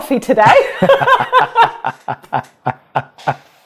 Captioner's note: both laugh